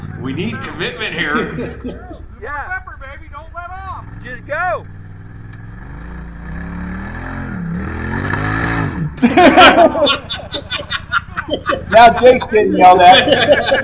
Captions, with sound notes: We need commitment here. Pepper, pepper baby, don't let off. Just go. (engine revving) (both laughing) Now Jake'sgetting yelled at